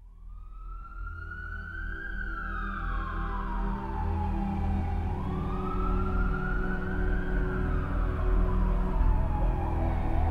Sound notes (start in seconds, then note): 1.6 sirens; 5.6 music swells